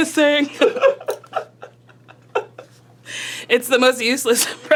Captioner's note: laughing